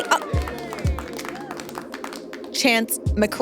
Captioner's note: audience applauds